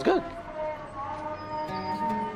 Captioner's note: muezzin chants in foreign language; brooding string music